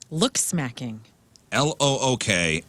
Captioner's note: none